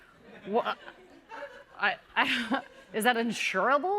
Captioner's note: laughter; stammering